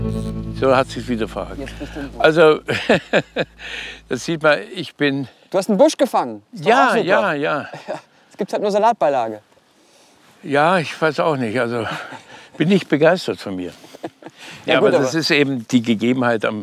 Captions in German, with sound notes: So, hat es sich wieder verhakt. (lachend:) Also ... Man sieht ... - Du hast einen Busch gefangen. Ja, ja, ja. Jetzt gibt es halt nur Salatbeilage. Ja, ich weiß auch nicht, also ... Bin nicht begeistert von mir. Das ist eben die Gegebenheit.